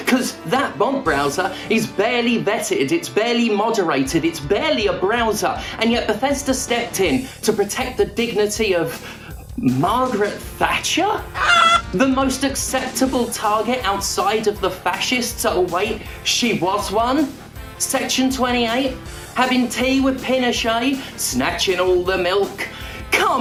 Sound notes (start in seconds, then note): 11.3 sqwawk